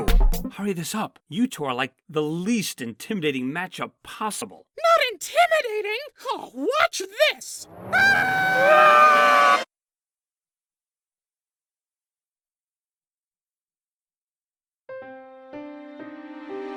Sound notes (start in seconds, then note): 7.6 goo screams; 7.8 balloon screams